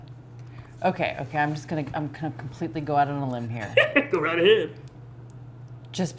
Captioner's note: laughing